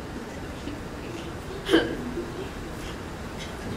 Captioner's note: laughs